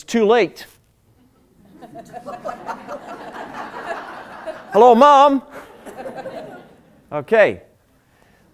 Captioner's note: laughter